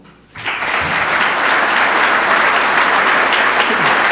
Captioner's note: audience applauds